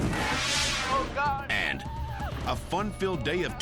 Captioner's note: Jeep crashing and thudding; air whoosh; screaming